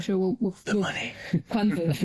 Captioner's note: whispers